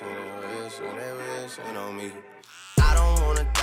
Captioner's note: singing; razor buzzes